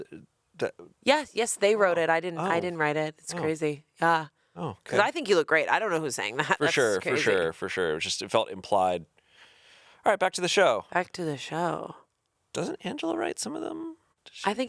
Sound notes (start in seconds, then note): 6.6 chuckling